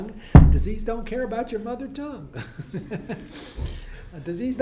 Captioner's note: laughs